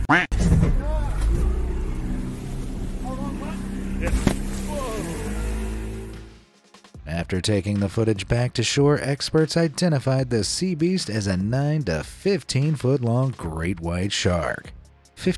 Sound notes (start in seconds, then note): 0.0 expletive quacks; 1.2 motor revs; 5.2 shark splashes